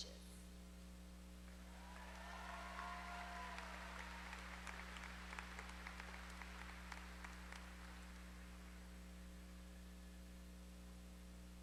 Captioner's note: applause